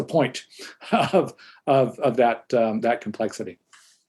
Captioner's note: chuckles